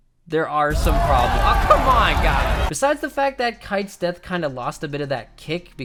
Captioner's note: angry mob sound effect